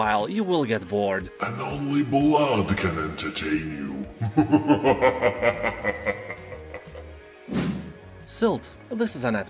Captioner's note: laughs in demon